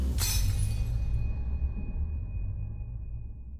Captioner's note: glass shattering